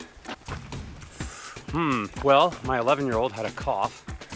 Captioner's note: inhales sharply